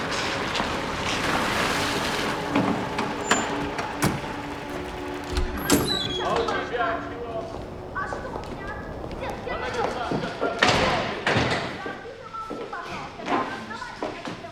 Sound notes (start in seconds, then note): 5.8 people hollering in foreign language